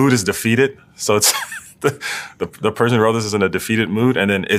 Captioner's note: laugh